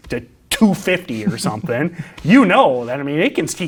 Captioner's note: laughs